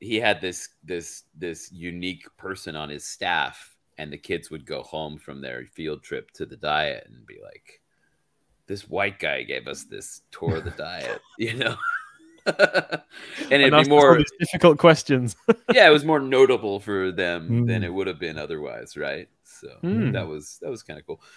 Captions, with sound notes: he had this unique person on his staff and the kids would go home from their field trip to the diet and be like, "This white guy gave us this tour of the diet." You know? (laughs) And it'd be more- - And that's probably difficult questions. Yeah, it was more notable for them than it would have been otherwise. Right. So that was that was kind of cool.